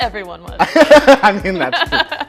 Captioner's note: both laugh